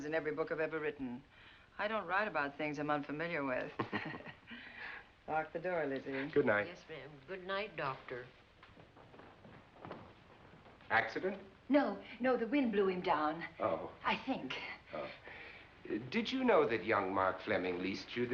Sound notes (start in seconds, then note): 3.7 chuckling